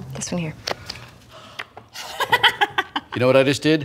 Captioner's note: laughing